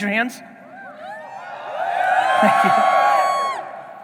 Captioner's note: audience cheering